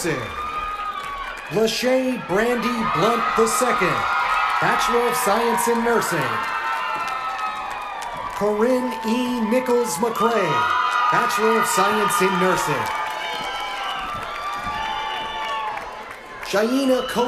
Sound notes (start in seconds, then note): 5.9 cheers and applause